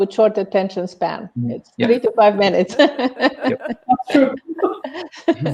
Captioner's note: laughs